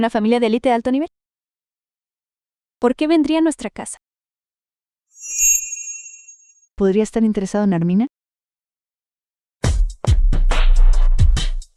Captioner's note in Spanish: campana